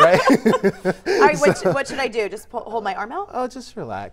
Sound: laughter

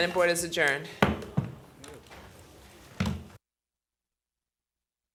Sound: banging gavel

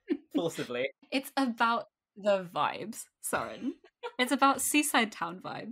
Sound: laughs

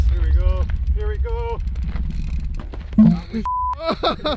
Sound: beep; group laughing

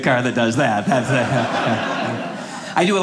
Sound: audience laughing

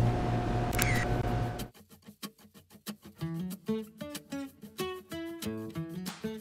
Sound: camera shutters; upbeat guitar music

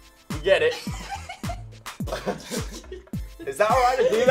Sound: laughs

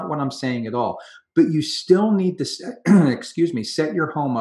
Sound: clears throat

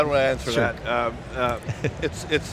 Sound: chuckles

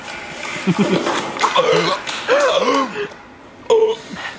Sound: laughing

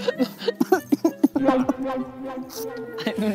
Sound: he ends up crying

